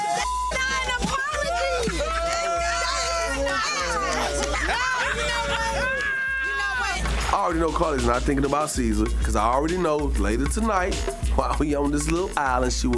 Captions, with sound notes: - That is not an apology! (group laughing) That is not it! No, you know what? You know what? - I already know Karlie's not thinking about Caesar, 'cause I already know later tonight while we on this little island,